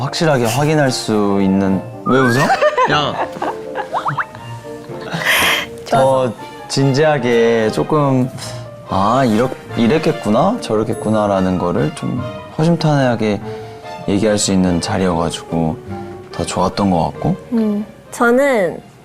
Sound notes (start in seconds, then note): 3.9 laughing